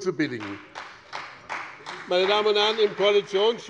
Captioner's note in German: Beifall bei dem BÜNDNIS 90/DIE GRÜNEN und der CDU